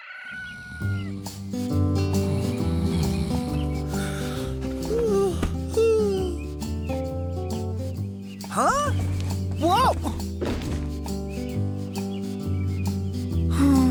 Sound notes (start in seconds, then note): 4.3 yawning; 13.6 moan of disappointment